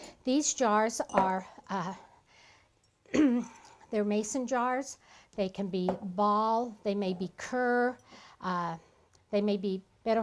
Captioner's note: clears throat